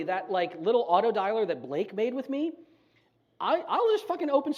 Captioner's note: none